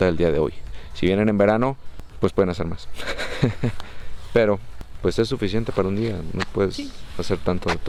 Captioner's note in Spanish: risas